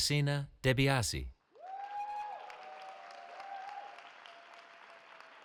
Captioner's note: cheering